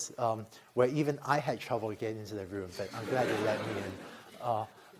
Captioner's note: laughter